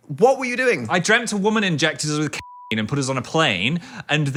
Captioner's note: beep